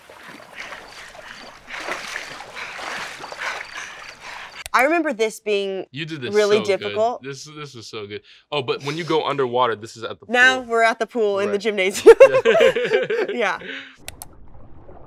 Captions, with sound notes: (water splashes) - I remember this being - You did this so good. - really difficult. - This, this was so good. Oh, but when you go underwater this is at the pool. - Now, we're at the pool in the gymnasium. (both laughing) Yeah.